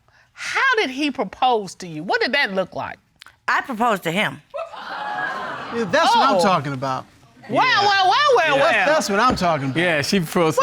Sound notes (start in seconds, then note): 4.6 audience exclaiming